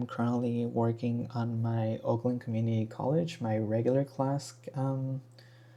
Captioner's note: none